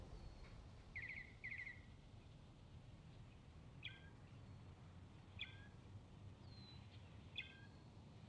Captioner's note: birds chirping